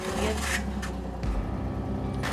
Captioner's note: ATV burbling; mellow country rock music